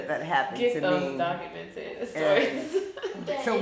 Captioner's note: chuckles